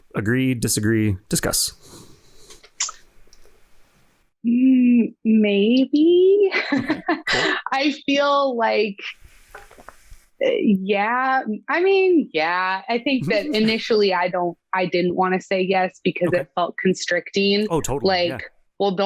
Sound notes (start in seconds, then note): 6.5 laughing